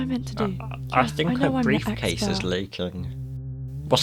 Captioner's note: whisper; whisper